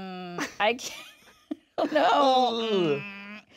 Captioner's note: chuckles